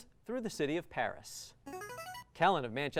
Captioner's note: buzzer